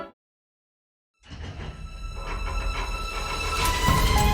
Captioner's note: machinery clanking